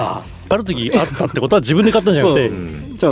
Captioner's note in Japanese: 笑い